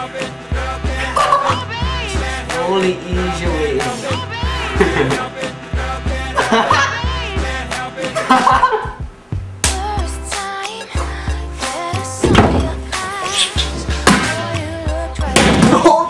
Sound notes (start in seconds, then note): 1.0 laughs; 4.6 chuckles; 6.2 laughs